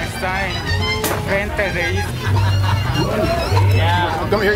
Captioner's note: speaking in a foreign language